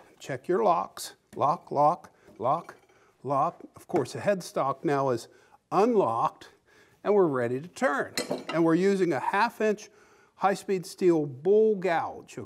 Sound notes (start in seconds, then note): none